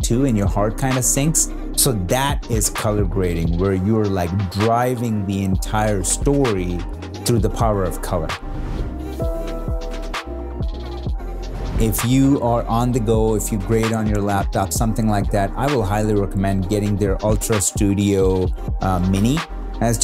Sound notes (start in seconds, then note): 8.3 whoosh sound; 9.4 gentle beats